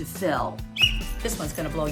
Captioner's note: whistle blows